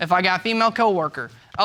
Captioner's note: none